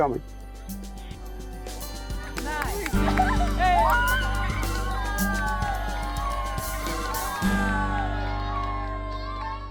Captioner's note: students cheering